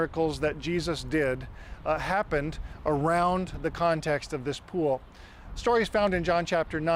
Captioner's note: none